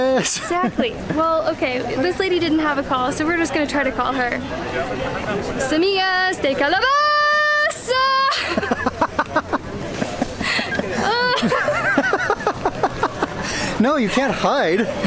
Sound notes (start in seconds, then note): 5.4 yelling; 9.8 laughter